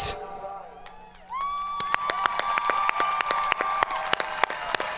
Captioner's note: audience cheering